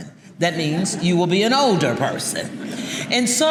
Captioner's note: audience chuckling